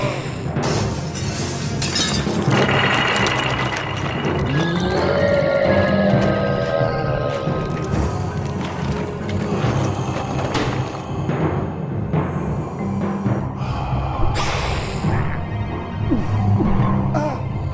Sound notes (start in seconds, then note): 5.0 roar; 13.0 heavy breathing